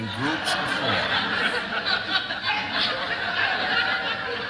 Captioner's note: laughter